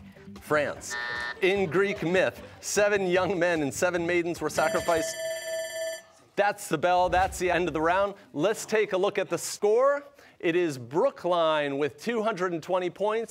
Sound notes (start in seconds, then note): 4.5 bell ringing